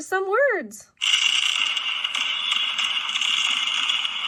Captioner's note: fireworks bang